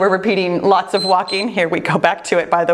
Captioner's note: timer beeps